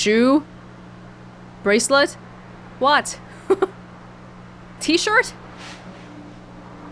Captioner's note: chuckles